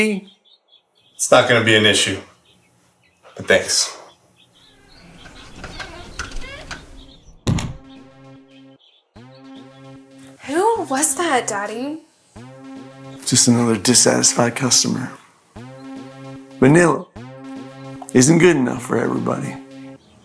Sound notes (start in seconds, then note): 4.8 door shuts